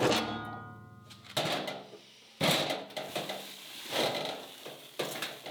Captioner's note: metal smashing